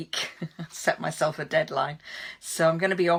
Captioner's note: chuckles